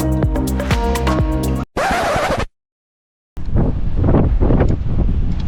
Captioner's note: record Scratch